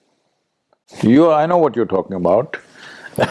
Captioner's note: laughs